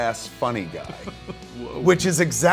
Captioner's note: laughing